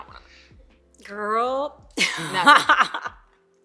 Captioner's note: laughs loudly